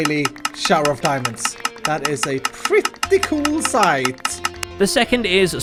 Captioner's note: deafening sound of diamonds hitting his face